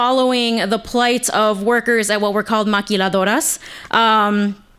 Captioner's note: speaking foreign language